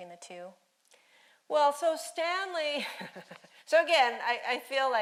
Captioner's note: laughing